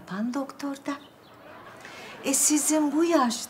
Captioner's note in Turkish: Gülme efekti